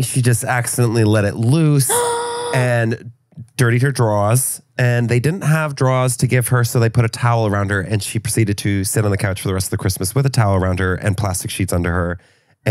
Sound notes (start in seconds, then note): 1.9 gasps